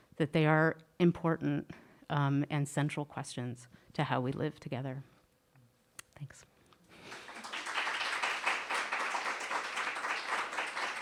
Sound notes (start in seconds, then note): 7.0 audience applauding